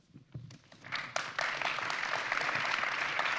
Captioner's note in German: Applaus